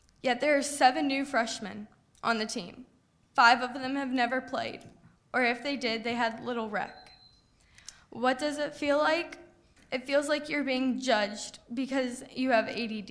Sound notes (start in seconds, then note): none